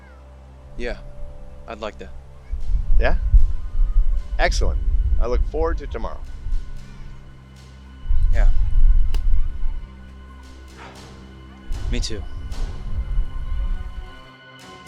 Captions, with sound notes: - Yeah, I'd like that. - Yeah, excellent. I look forward to tomorrow. - Yeah. (sighs) Me too.